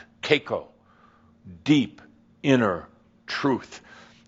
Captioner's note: speaking very passionately